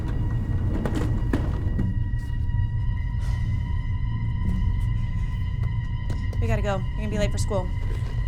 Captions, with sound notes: [Wendy sighs] We gotta go. You're gonna be late for school.